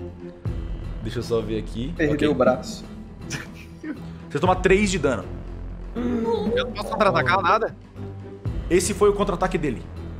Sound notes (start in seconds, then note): 3.3 laughter